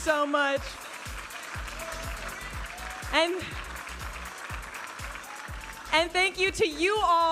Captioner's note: audience applauding and cheering